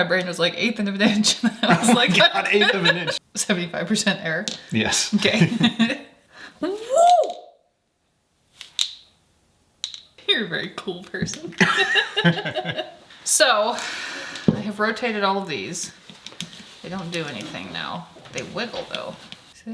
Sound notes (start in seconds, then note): 5.2 both laughing; 6.6 attendee exclaiming; 9.8 ball clinking; 11.6 both laughing